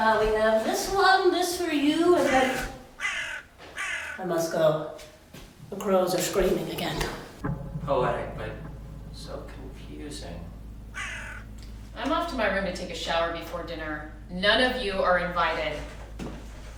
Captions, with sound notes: Now we have this one just for you and then... (crow cawing) I must go, the crows are screaming again. - All right, but, so confusing. - I'm off to my room to take a shower before dinner. None of you are invited.